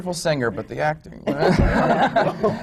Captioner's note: laughter